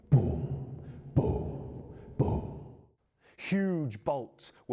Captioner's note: steps echo